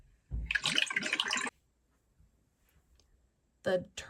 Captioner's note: water gurgles